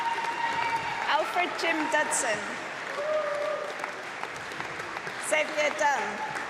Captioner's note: applause